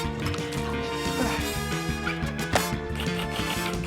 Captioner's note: grunts; keys clack